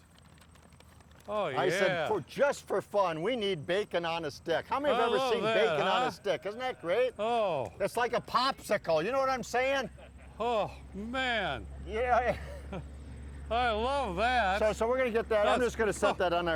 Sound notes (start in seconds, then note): 12.5 laughs